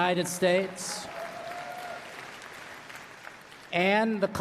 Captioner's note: applause